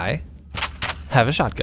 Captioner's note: chk chk